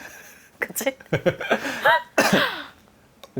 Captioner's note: laughs